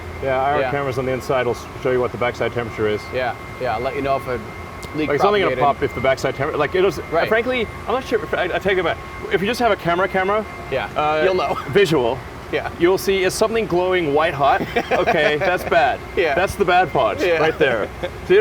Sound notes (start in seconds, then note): 14.3 laughs